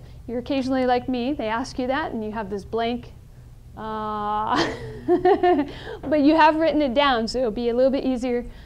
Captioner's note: laughs